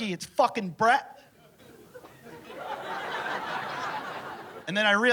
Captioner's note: laughter